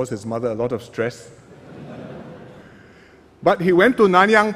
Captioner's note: laughter